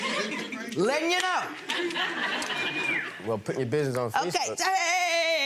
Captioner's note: audience laughing